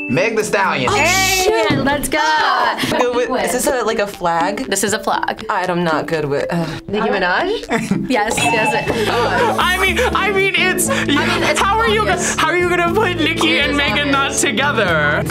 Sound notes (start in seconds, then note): 1.0 dinging sound; 7.5 chuckles softly